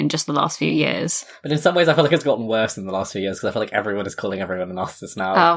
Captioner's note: laughing; laughs